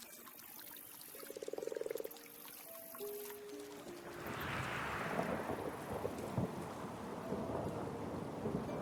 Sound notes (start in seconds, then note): 4.2 wind whooshing; 4.2 thunder rumbling